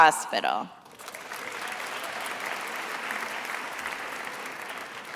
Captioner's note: attendees applauding